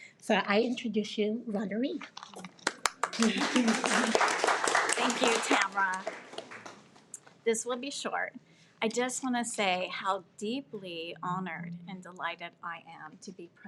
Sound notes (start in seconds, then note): 2.5 audience applauding